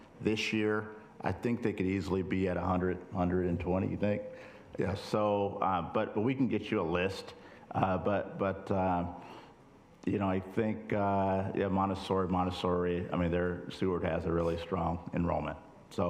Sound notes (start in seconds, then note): none